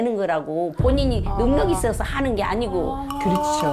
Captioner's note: in a serious tone